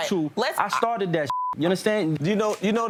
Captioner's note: beep